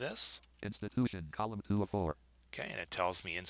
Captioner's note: synthesized speech